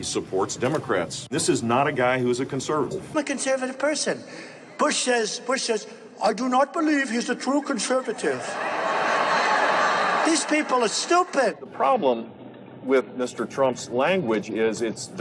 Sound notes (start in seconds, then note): 7.5 audience laughing